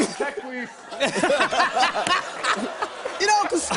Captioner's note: laughter